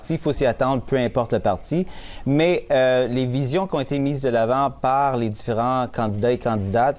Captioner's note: speaking French